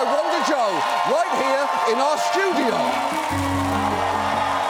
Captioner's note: audience cheering